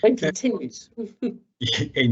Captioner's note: chuckles